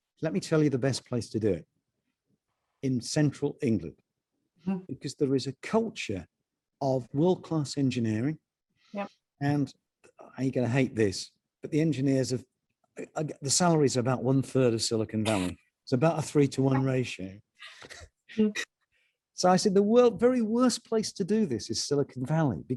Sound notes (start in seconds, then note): 16.7 laughing